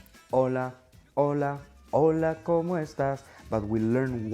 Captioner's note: speaks Spanish